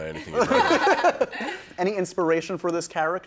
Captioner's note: laughter